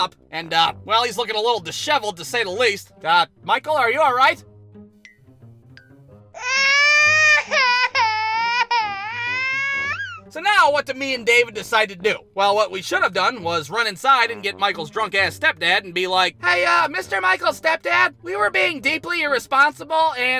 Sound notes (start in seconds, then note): 6.4 wailing